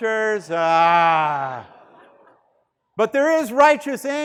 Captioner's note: students laughing